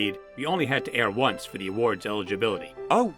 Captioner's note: none